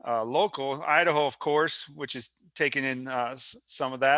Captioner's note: none